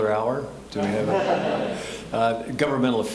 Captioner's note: audience laughing